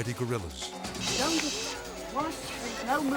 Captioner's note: person shushes